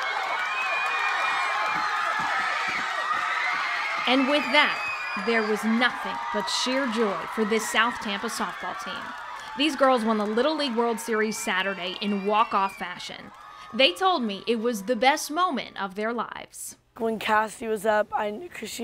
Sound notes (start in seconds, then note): 8.4 cheering